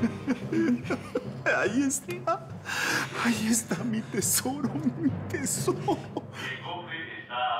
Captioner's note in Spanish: Risas; Voz electrónica